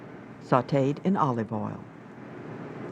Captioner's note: voiceover